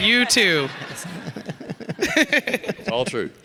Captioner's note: all laughing